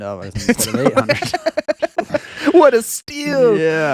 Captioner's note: laughing